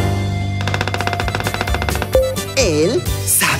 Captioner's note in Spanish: Sonido de pájaro carpintero